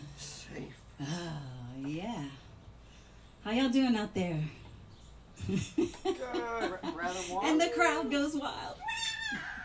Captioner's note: laughs